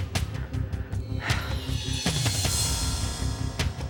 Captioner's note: sighs